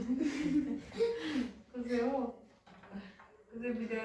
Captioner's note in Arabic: ضحك